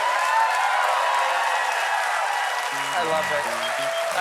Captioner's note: cheering